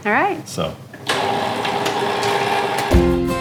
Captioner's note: clicking, whirring